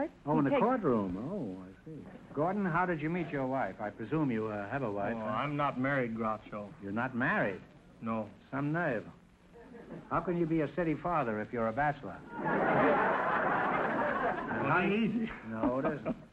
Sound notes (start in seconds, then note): 12.2 audience laughter